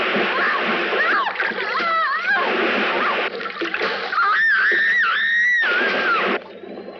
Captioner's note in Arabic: صرخات المرأة